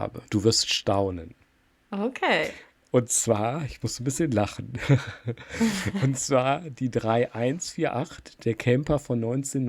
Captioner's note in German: gelächter